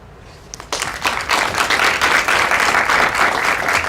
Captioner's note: applause